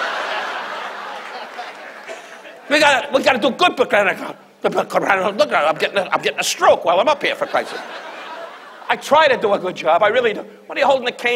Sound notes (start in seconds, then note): 0.0 audience laughs; 4.4 Don muttering; 7.3 audience laughs